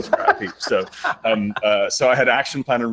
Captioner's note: laughter